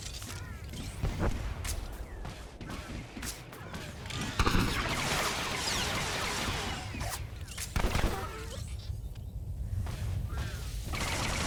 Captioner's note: gun firing